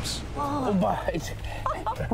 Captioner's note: they gasp